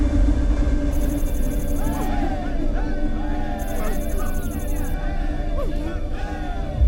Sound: people screaming

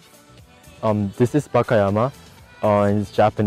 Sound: speaking foreign language

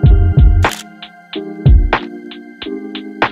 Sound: camera shutter clicks

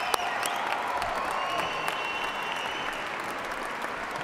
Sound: cheers and applause

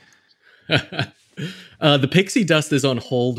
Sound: laughs

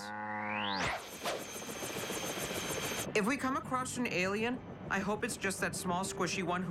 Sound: cow moos

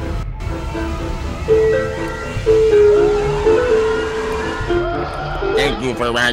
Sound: screams of a demon

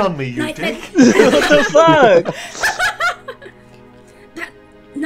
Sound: laughter

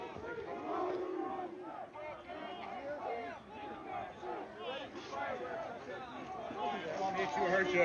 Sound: chanting

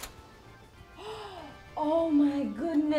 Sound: Cynthia gasps

